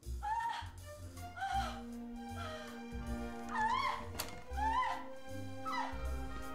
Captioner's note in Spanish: UNA MUJER GRlTA